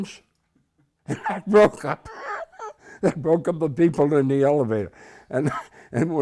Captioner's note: laughing